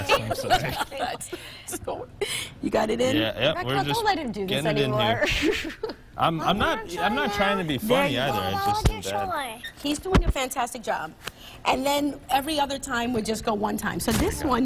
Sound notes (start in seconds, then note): 5.2 laughter